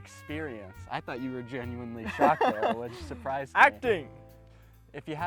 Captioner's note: laughs